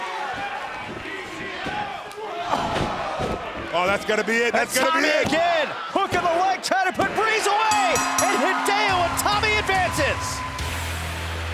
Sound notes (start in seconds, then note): 7.7 bell ringing